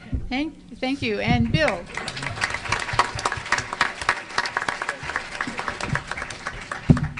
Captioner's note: applause